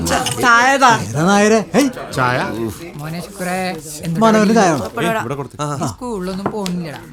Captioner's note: indistinct chatters